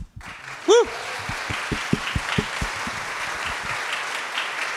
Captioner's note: audience applauding